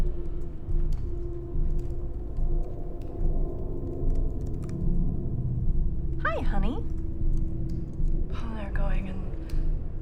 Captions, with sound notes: (keyboard clicking) - Hi, honey. - Oh, they're going in,